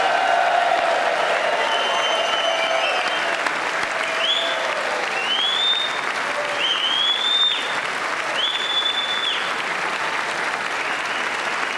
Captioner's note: applause